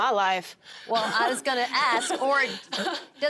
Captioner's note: laughing